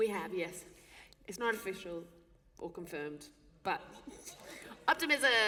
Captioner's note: laughter